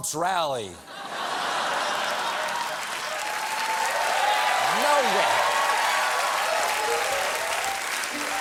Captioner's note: applause